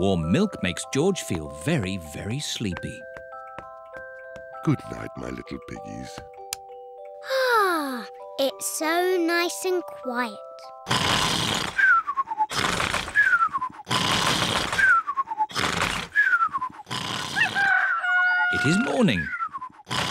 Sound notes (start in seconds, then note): 7.2 sighs happily; 10.8 george snores loudly; 17.3 cockerel crows